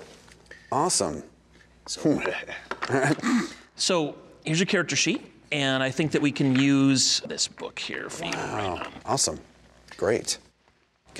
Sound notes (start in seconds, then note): 2.8 chuckling